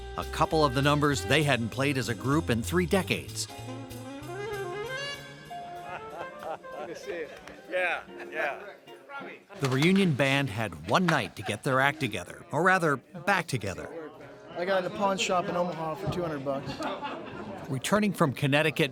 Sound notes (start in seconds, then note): 5.8 laughing